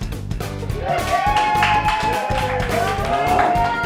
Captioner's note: cheering